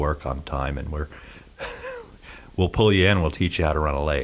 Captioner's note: he laughs